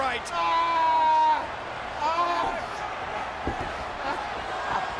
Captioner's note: screaming; crowd cheering